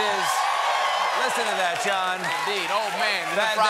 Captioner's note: cheers and applause